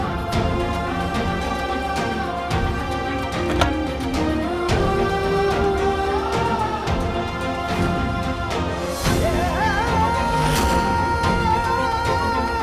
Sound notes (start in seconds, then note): 3.4 door shuts; 10.3 suspenseful music plays